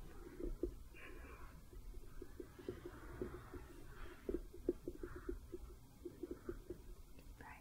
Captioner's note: light tapping